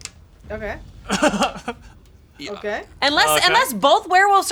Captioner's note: laughing